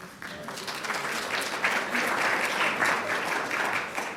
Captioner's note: audience applauding